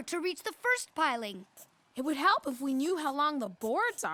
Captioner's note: none